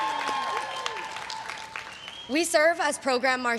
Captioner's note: everyone cheering and applauding